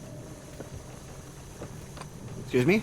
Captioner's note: footsteps